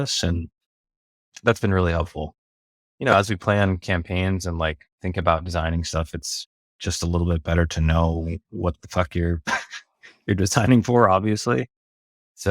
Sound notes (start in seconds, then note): 9.4 laughs